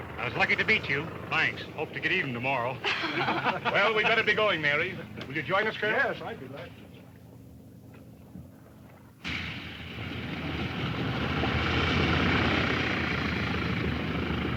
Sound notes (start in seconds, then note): 2.7 group laughs; 9.6 airplane motors whirring